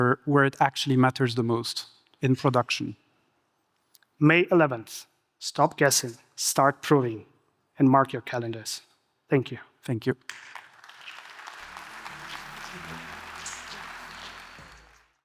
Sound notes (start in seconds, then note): 10.2 audience applauding